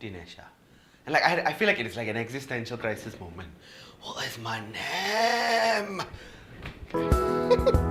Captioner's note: giggles